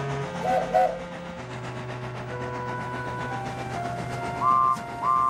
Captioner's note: Sir Handel whistles; Douglas whistles